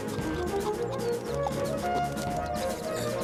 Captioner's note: pop